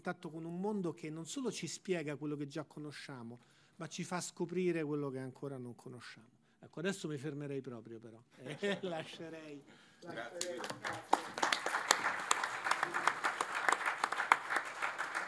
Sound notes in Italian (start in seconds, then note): 10.1 Applauso